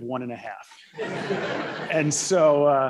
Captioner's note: laughter